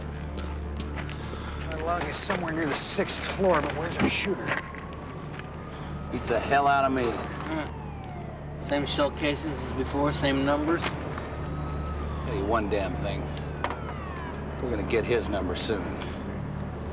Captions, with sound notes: My lung is somewhere near the sixth floor. But where's our shooter? Beats the hell outta me. Huh... same shell casings as before. Same numbers. Tell you one damn thing... (siren wailing) We're gonna get his number soon.